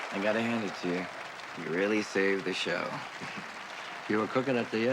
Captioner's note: applause